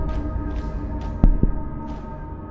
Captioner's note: ba-bum